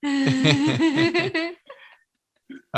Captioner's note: both Laugh